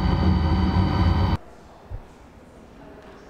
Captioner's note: silence